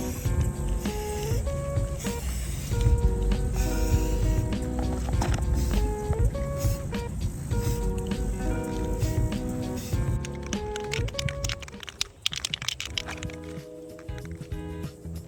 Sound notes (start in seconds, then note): 1.8 spray painting noises